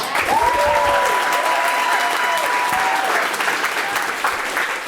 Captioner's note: audience applauds